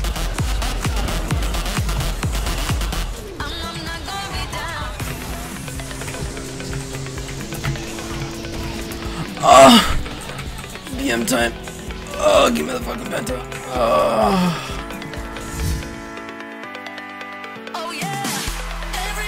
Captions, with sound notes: *moaning noise* BM time Blarghh! +aaaaaaaaaaaaaaaaaaaa give me the fucking penta *moans*